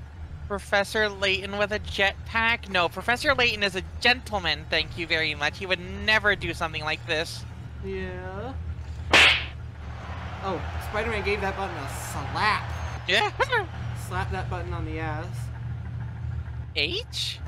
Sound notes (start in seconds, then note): 9.1 boosted slap